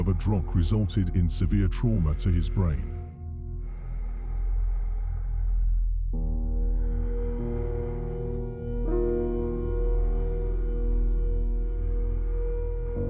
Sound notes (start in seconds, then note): 3.6 breath huffing; 4.6 ominous music